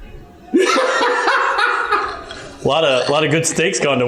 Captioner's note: laughs